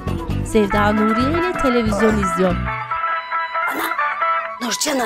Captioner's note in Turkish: Telefon zili sesi